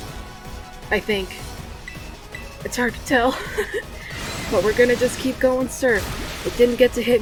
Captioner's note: laughs